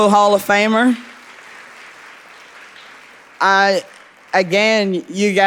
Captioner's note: audience applauding